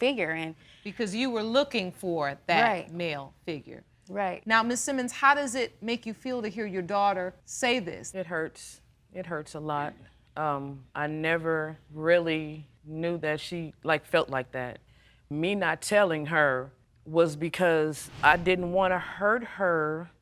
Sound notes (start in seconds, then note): none